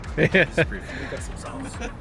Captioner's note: laughing